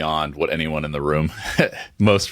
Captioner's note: laughing